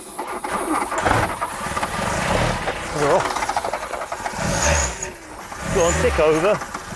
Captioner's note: engine splutters & revs